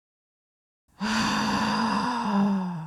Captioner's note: annoyed sigh